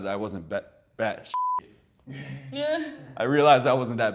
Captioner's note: beep